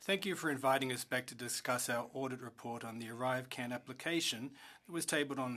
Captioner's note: speaking French